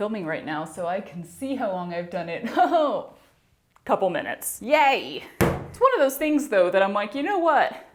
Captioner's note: thud